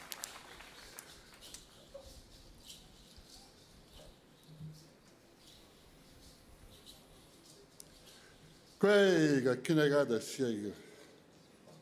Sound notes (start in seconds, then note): 0.0 applause